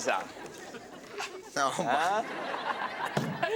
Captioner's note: laughing